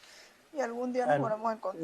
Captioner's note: speaking non-english